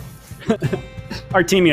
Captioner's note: laughs